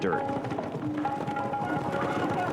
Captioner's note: horses clip-clopping